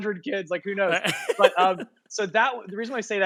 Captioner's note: laughing